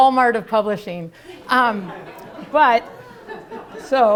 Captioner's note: laughter